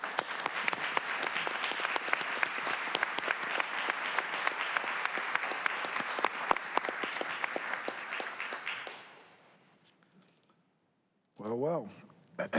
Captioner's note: applause